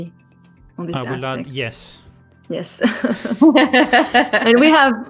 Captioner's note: laughs